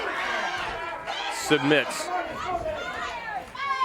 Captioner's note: crowd cheering